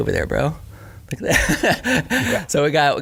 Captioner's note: laughing